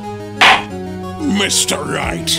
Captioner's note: gavel slams!